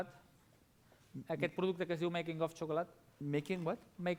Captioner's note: non-english